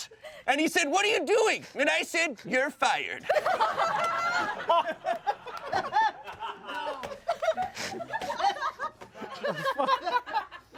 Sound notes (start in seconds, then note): 3.2 everyone laughs